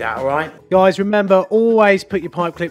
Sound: voiceover

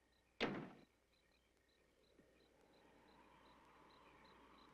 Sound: car door slams

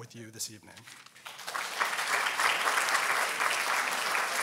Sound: applause

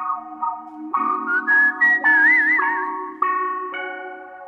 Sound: whistling

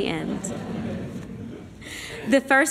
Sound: laughter

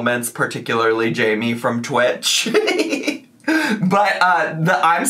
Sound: laughs

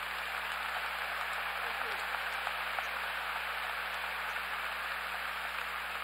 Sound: applause

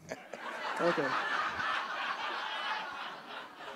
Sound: audience laughing

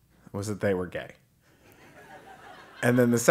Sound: laugh

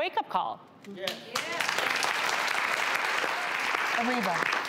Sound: audience applauds

